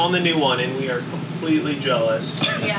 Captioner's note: laughs